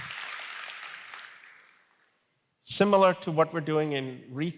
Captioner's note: applause